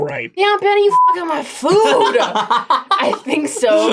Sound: laughs

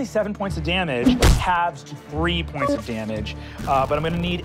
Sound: whack

